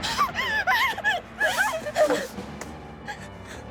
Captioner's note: ominous music; crying